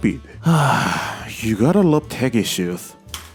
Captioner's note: sigh